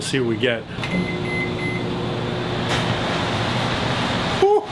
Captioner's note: beep sounds